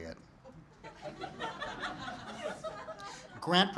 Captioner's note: laughing